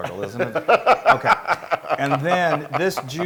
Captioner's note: laugh